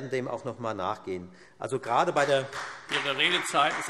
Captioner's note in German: Beifall Freie Demokraten